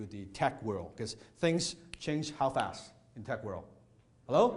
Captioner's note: snaps